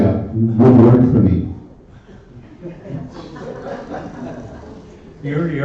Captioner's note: laughter